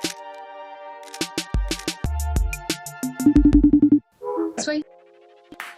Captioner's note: camera shutters